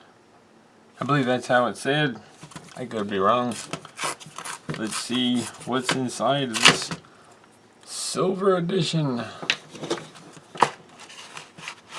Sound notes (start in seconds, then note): 3.9 tearing sounds